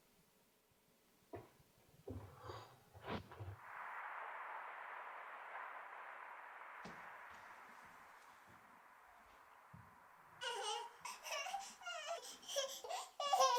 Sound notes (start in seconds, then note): 3.7 ocean waves crashing; 10.4 baby giggling